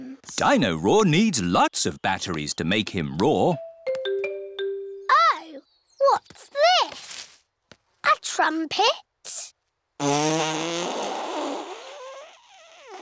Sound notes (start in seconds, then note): 10.0 blows raspberry